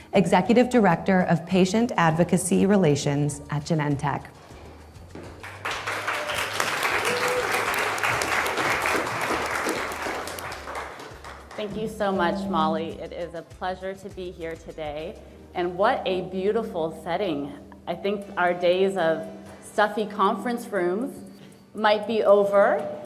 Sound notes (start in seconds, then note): 5.4 audience applauding